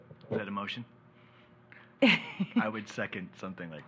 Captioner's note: laughs